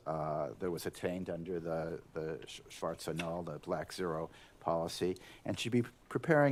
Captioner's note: german